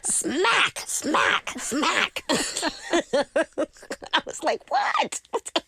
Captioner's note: laughter